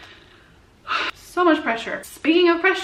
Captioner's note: sighs